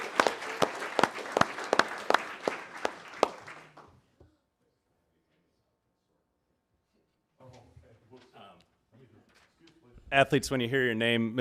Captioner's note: applause